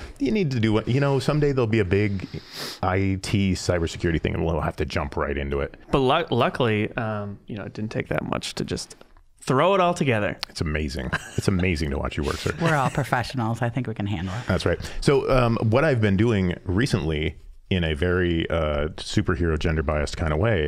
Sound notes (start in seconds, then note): 12.2 laughing